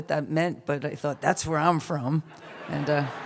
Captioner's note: laughter